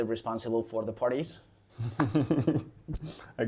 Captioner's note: laughs